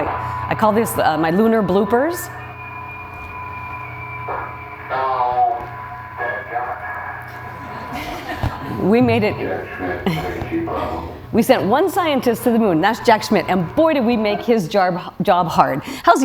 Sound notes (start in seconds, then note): 3.4 loud Beeping; 8.6 laughing